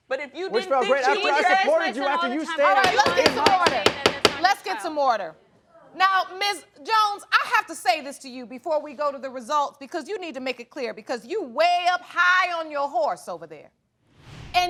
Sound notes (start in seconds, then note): 1.9 both yelling; 2.8 gavel banging